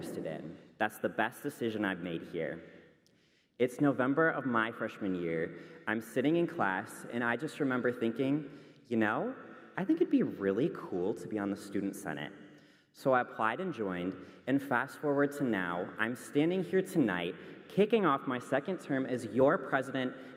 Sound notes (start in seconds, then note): none